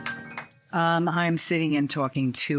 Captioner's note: applause